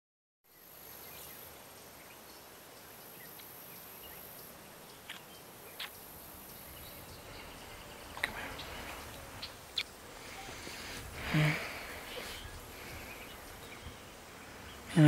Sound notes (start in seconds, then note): 1.0 birds chirping; 11.2 sigh